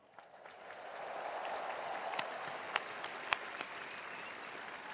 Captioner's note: attendees applauding